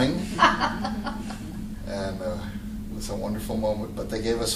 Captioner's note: laughter